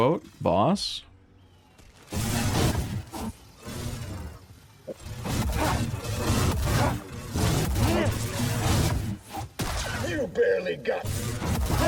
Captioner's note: gunshots